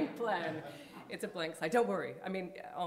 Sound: audience chuckling

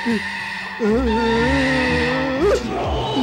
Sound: groans

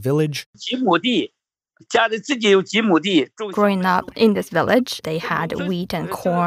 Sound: speaking Mandarin

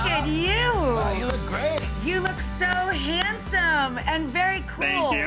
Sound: claps

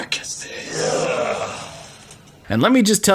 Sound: totally not goblin groans

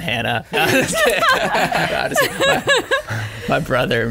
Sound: laughing

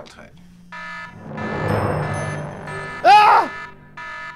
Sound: phone rings, DANGER alarm

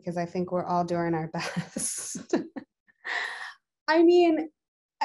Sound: chuckles

